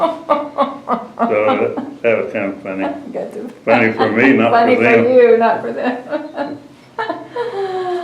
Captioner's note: laughter